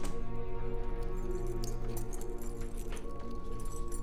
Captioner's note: door latch clicks; keys jangling; gentle ominous music